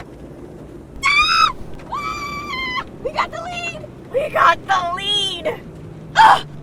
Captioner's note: Maggie screaming